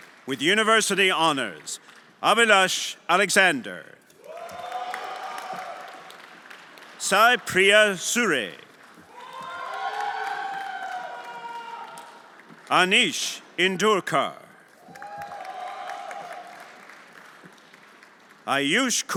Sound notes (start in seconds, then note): 0.0 everyone applauding and cheering; 4.1 everyone applauding and cheering; 8.6 everyone applauding and cheering; 14.7 everyone applauding and cheering